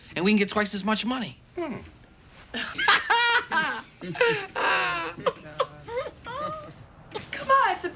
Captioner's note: Elliot cackles